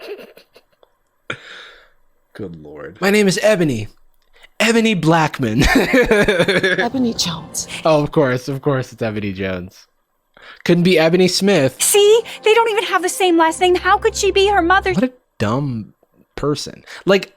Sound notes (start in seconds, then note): 5.7 laughs